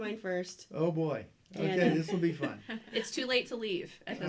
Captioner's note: laughter